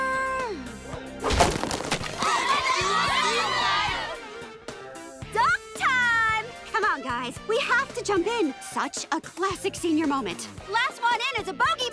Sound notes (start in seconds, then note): 2.1 cheering